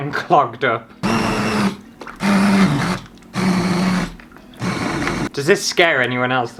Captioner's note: blending Noises